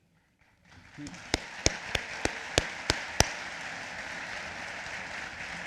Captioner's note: applause